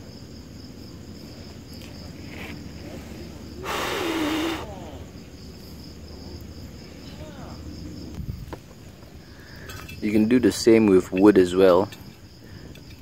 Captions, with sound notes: [Blowing air out of mouth] You can do the same with wood as well